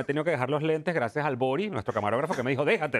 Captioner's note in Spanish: risas